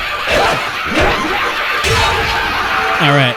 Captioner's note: overlapping crazed laughter; thwack